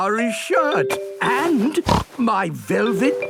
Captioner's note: snorts